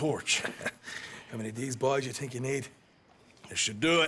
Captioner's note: laughs